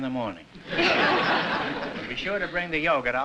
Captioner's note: laughter